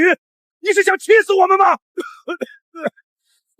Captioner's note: cough